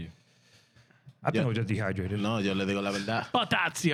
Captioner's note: speaking In Foreign Language